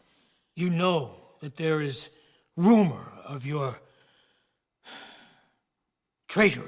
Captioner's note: sighs